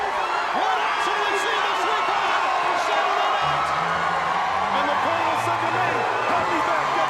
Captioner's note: audience cheers drowns out commentators